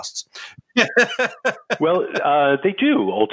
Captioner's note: laughing